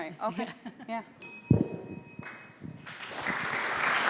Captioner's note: bell dings; applause